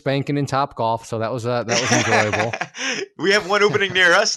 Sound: laughing

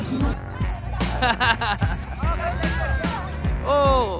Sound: laughs

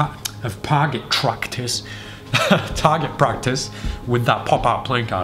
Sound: laughs

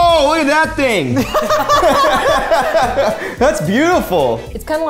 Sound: all laughing

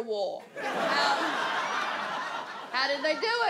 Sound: audience laughs

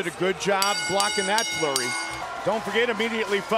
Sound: bell ringing

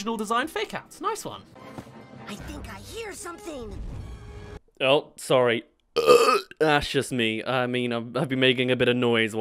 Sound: burps

